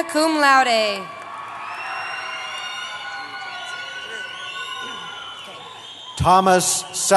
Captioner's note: cheering